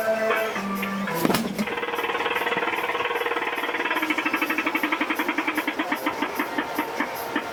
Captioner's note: punches bag; machine counting